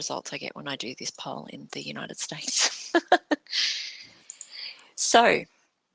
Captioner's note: laughs